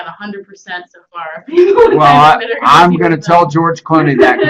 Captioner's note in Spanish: Conversaciones indistintas